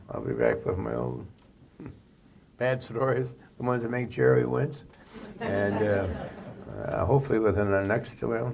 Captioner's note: laughter